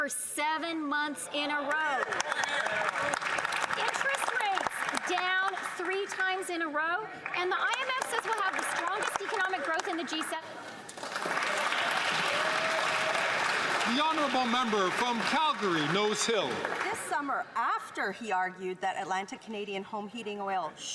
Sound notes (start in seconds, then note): 8.7 applause; 15.2 some Applause